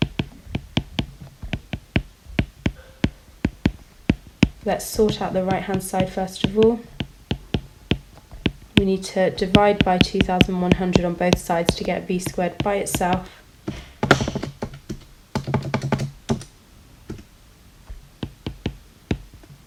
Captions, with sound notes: Let's sort out the right-hand side first of all. We need to divide by 2100 on both sides to get v squared by itself. (typing on calculator)